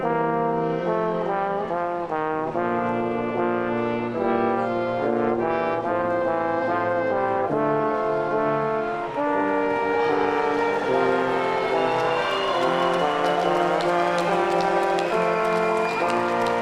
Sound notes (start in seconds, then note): 10.8 audience cheering; 13.4 audience applauding